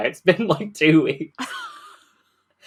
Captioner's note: laughs